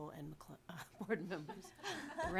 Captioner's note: laughing